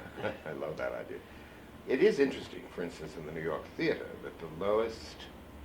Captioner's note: laughs